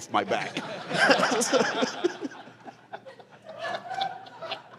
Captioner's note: laughter